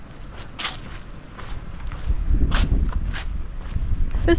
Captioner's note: footsteps crunching